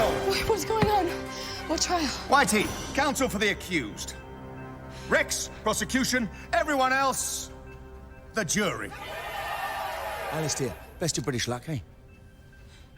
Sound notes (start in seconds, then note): 8.9 crowd cheering